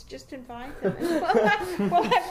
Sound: laugh loudly

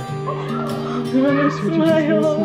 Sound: gasping

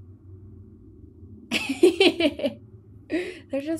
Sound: laughs

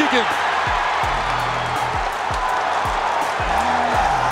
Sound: crowd cheering

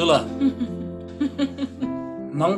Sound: laughing

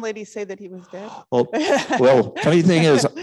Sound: laughing

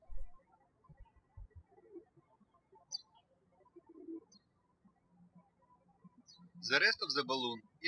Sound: birds chirping

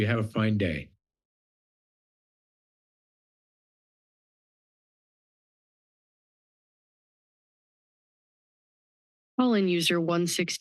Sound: silence

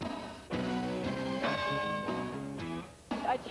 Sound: bell rings

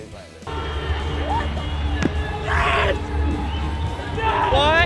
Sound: screaming

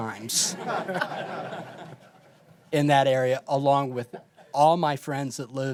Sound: laughter

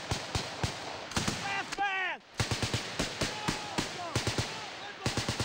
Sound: rapid, continuous gunfire

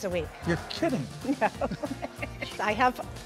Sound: laughs

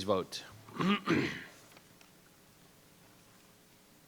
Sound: clears throat

